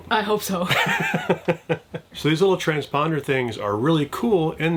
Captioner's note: chuckles